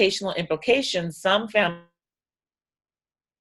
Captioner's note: audio drops out